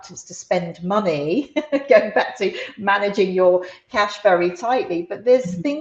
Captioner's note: laughs